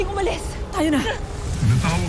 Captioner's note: sparkling whoosh